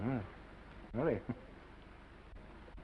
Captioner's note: chuckles